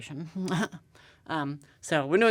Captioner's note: chuckling